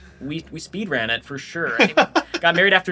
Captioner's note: laughs